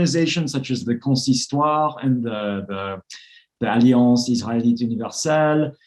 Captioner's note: speaks foreign language